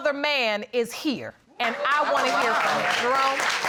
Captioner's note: applause